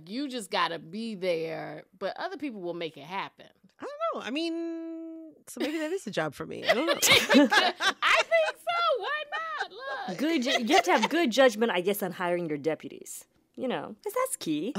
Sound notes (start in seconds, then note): 6.6 laughter